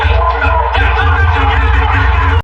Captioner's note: all cheering